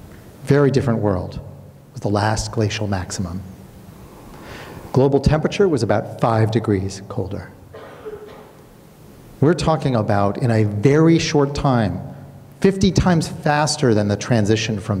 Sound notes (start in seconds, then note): 7.7 coughing